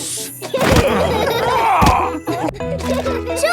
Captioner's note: laughing